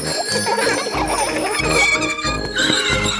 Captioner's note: giggling and ringing bells; tires screech